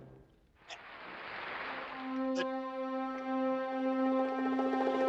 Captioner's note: audience applauding; dramatic orchestral music